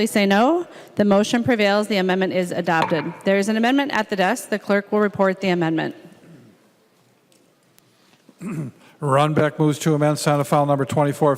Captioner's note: chorus of ayes; gavel